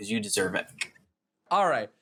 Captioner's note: clicks tongue